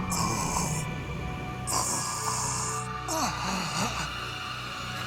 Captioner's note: groans; gurgles